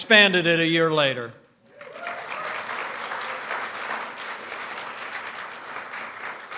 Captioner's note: applause